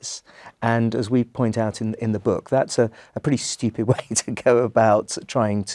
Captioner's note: laugh